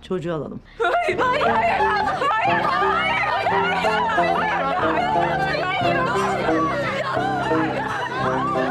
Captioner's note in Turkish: Bağrışmalar